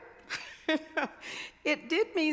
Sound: chuckling

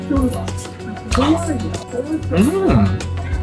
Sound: gasps

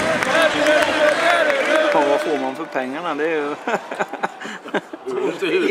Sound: chuckles

